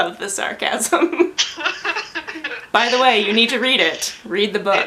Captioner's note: laughs